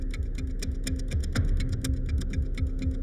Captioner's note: none